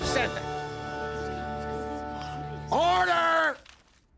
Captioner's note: spectators murmuring